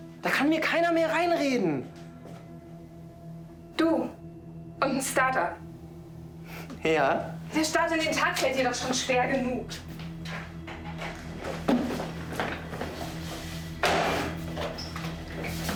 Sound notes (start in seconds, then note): 11.3 tool sounds - cleaning up